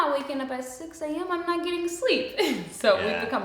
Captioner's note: chuckles